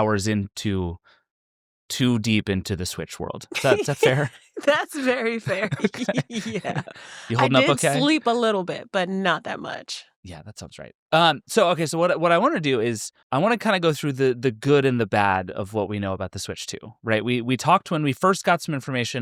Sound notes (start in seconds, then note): 6.6 laughing